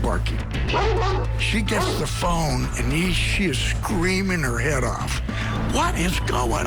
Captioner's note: dog barking